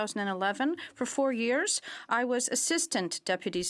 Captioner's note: speaking french